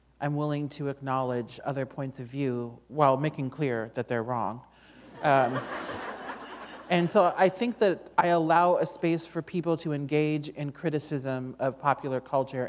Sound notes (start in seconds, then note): 5.1 laughter